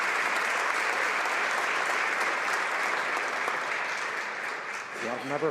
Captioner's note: applause